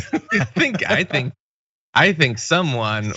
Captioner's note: laugh